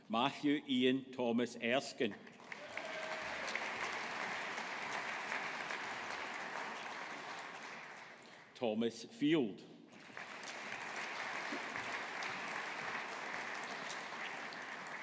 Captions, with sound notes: Matthew Ian Thomas Erskine. (AUDIENCE APPLAUDING) Thomas Field. (AUDIENCE APPLAUDING)